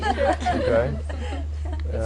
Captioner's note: laughter